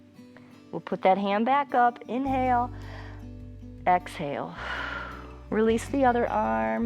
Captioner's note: exhales